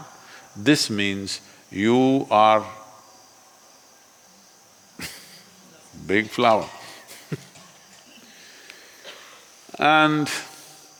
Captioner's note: laughs